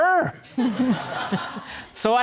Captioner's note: laughing